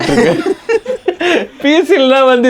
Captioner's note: group laughs